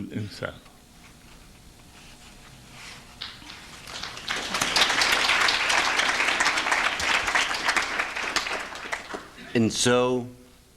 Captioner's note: applause